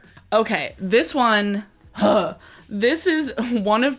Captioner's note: sighs